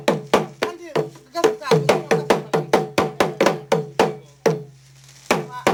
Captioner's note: speaking in foreign language